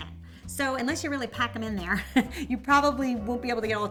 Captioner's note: chuckling